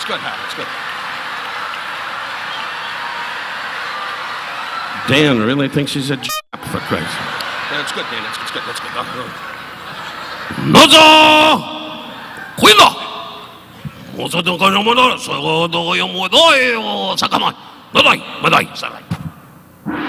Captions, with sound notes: It's good, that's good, Hal, that's good. Dan really thinks he's a Jap for Christ's sake. That's good, Dan, that's good, that's good. (Don speaking in a foreign language)